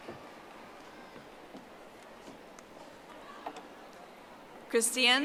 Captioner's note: audience applauding